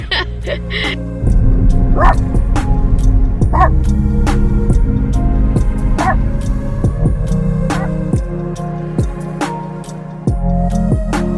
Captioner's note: laughs; Ollie barks a few times and fades out